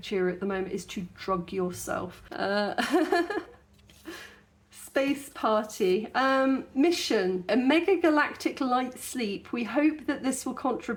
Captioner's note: laughing